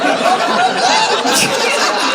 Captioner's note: laughter